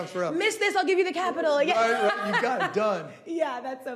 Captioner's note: laughing